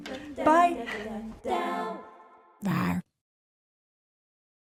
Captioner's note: monster roaring